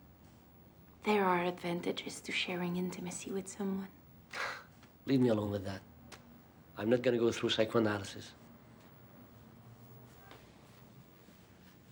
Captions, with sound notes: there are advantages to sharing intimacy with someone. - (scoffs) Leave me alone with that. I'm not gonna go through psychoanalysis.